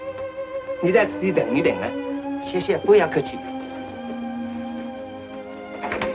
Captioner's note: speaks foreign language; solemn instrumental music